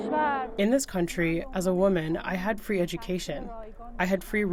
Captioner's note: through translator